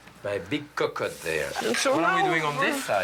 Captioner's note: sizzling